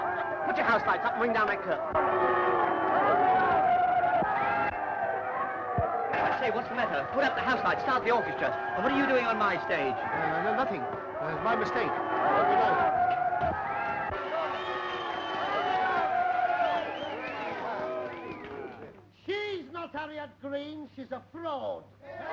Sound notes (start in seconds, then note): 0.0 laughing; 3.0 audience booing and jeering; 12.3 audience booing and jeering